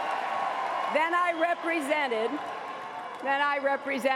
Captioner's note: cheers and applause